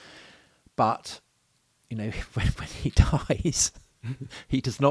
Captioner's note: chuckles